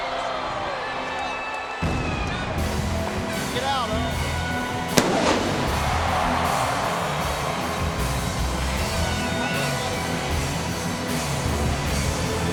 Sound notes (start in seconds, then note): 4.9 fireworks whooshing; 5.3 crowd cheering; 9.7 dramatic music